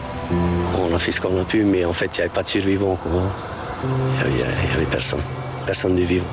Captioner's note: speaking in foreign language